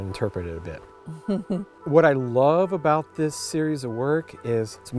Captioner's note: chuckles